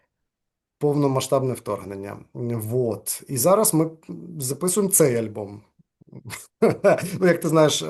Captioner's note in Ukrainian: сміється